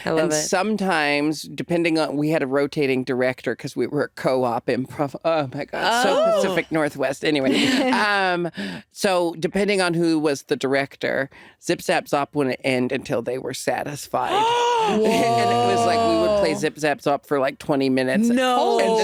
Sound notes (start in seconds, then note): 14.5 gasping